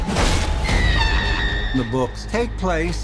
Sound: scream

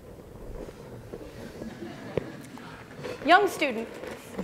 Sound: laughter

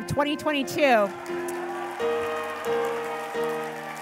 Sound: cheers and applause

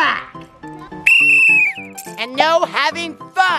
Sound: whistle blows

